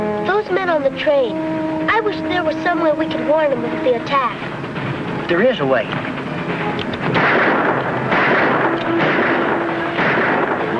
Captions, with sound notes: Those men on the train, I wish there was some way we could warn them of the attack. - There is a way. (gunfire blasts)